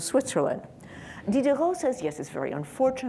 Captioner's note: speaking in foreign language